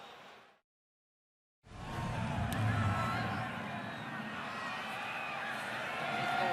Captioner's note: whistling